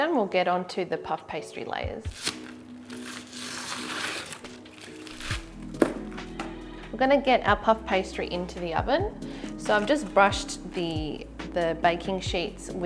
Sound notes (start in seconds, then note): 2.1 crinkling